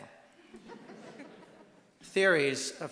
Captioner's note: audience laughing